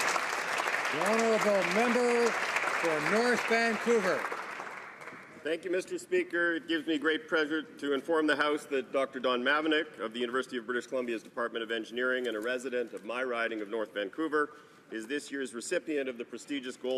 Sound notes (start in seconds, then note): 2.0 applause